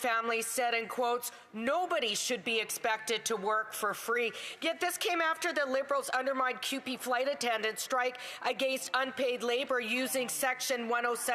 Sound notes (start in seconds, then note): none